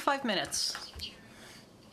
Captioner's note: speaking French